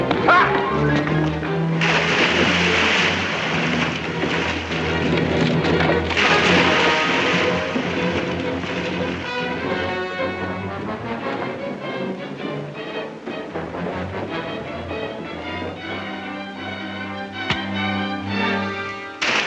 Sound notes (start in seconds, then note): 0.0 suspenseful music; 1.8 water splashes; 3.7 suspenseful music; 6.0 water splashes; 7.8 suspenseful music; 19.1 water splashes